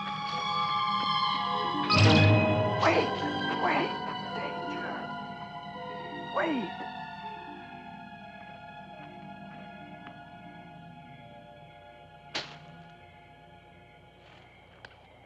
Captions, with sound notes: -(WHISPERING) Wait! Wait. Danger. Wait!